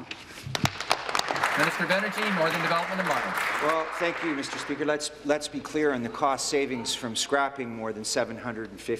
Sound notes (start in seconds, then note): 3.9 applause